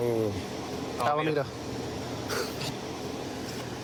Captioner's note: laughs